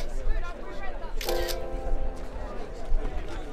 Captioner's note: camera snaps